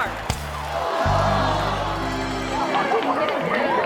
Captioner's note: crowd gasps